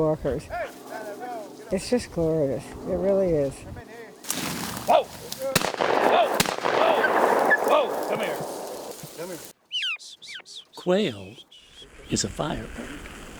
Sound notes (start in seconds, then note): 7.6 gunshots; 8.5 bird calls